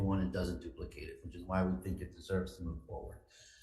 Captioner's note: none